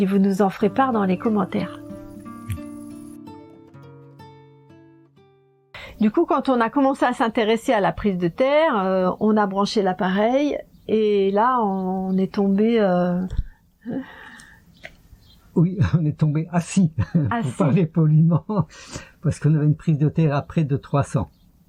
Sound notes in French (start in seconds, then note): 13.8 soupir; 16.9 rires